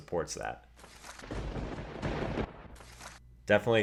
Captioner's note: thunder crash